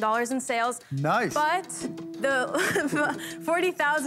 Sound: laughs

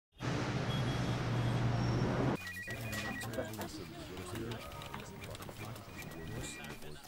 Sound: office sounds

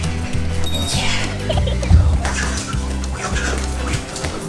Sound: laugh

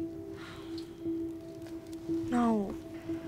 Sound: heavy sigh

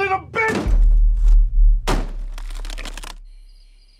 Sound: banging, cracking

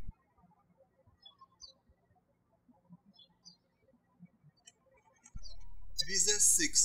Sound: birds chirping

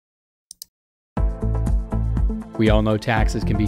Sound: mouse click then music plays

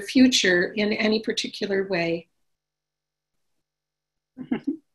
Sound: chuckles

